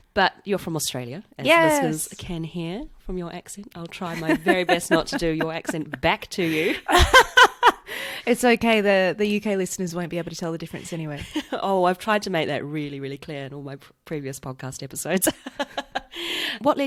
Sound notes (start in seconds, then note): 6.4 laughs